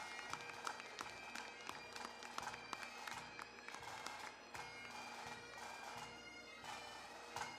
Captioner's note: applause; bagpipe music